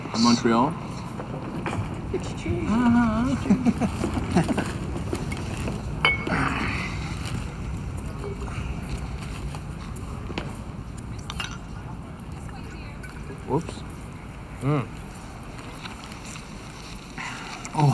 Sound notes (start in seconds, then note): 2.0 laughs